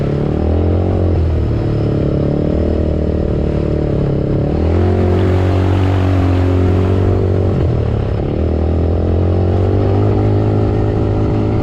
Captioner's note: engine sounds from ATV